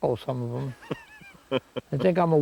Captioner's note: Don chuckles